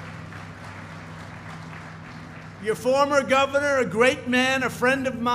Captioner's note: applause